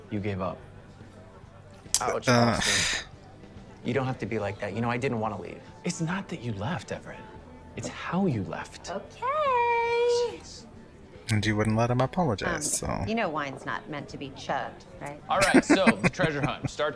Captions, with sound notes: [Vexed sigh] And you wouldn't let him apologize, so… [Laughing]